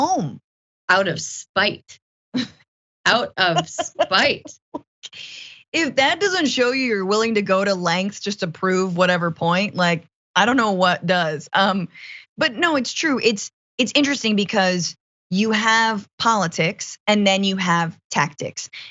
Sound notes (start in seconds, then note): 3.5 laugh